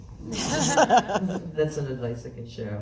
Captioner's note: laughs